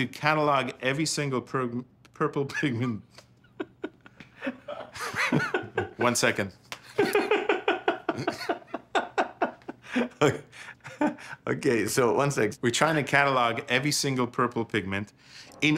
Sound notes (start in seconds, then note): 3.1 laughs